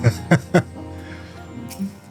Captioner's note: laughter